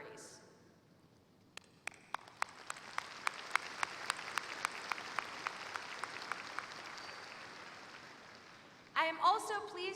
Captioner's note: applause